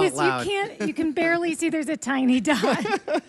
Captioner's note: laughs